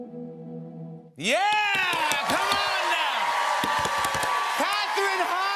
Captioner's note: cheers and applause